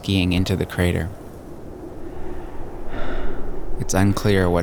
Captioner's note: wind whistling